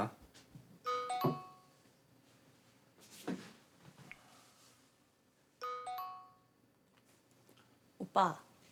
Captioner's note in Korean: 휴대전화 문자 수신음